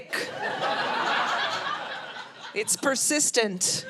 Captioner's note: audience laughing